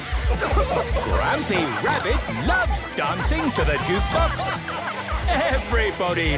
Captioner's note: shouting